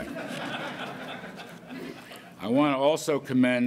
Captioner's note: laughter